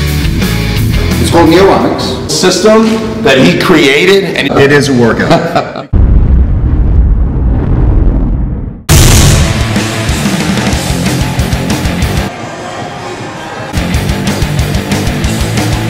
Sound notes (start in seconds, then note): 5.1 laughs; 5.9 thunder sounds; 8.9 slam; 8.9 loud hardcore music; 12.3 gym sounds; 13.7 loud hardcore music